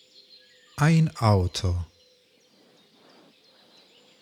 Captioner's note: german